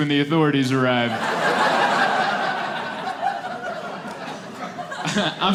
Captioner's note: laughter